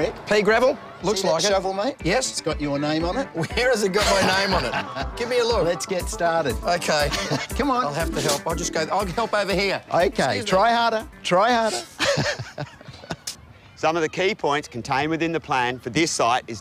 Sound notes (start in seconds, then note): 4.0 chuckles; 11.6 laughs